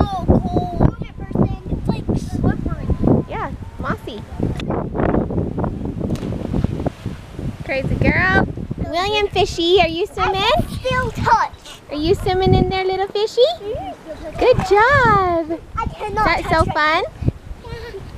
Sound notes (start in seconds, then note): 6.0 splash